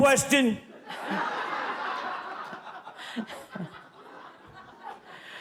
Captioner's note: audience laughs